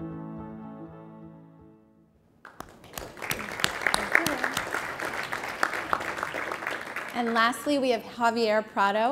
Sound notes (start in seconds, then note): 2.4 applause